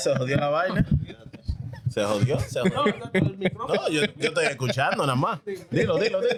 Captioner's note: speaking In Foreign Language